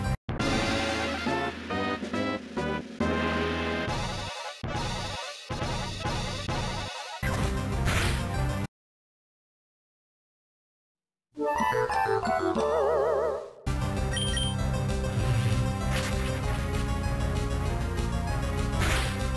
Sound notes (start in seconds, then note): 7.4 ♫ Regular game music; 8.9 ♫ Silence; 13.7 ♫ Back to regular game music